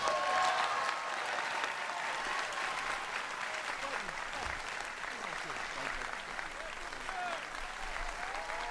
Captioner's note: cheering and applause